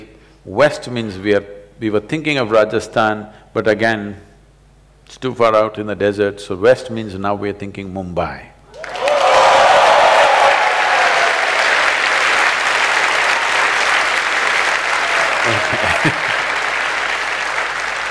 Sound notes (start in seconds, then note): 10.1 applause